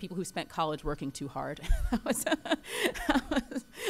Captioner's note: laughter